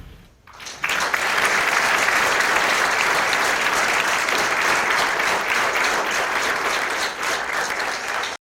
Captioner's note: applause